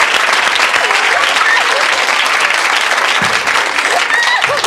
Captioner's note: laughing